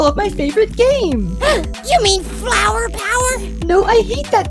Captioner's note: gasp